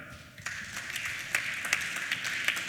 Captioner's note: applause